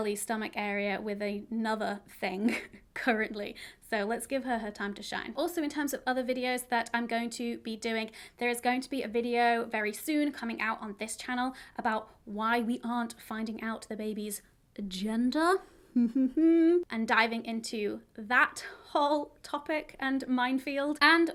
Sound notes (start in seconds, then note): 15.9 chuckling quietly